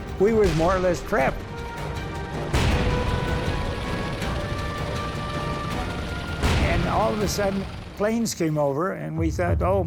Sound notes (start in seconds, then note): 0.0 shells exploding; 2.3 tank turret firing; 6.6 turret firing